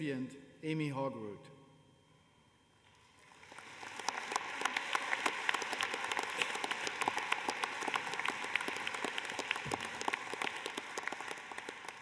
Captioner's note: applause